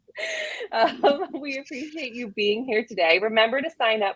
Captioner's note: laughs